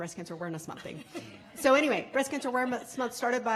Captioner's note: laughing